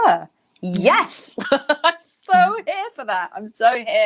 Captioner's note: Jameela laughing